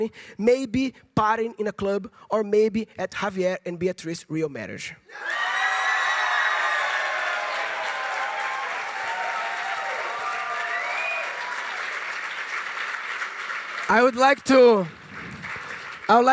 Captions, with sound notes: Maybe as partners in a company... Maybe partying in a club... Or maybe at Javier and Beatriz real marriage. [applause] I'd like to...